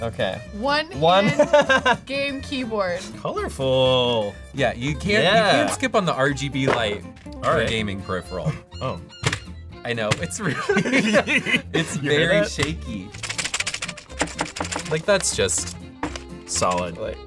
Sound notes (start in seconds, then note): 10.4 laughs; 13.9 clatters